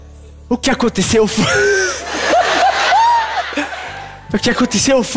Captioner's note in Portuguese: risos